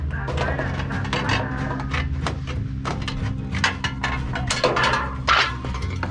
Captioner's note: tin snip sounds